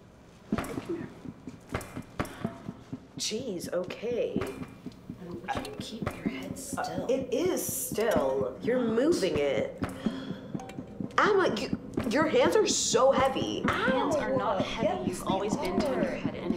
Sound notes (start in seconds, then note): 10.0 sighs